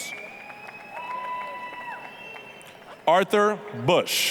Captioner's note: applause, cheering